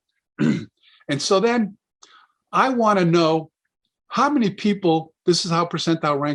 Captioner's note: clears throat